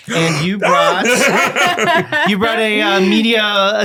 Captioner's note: all laughing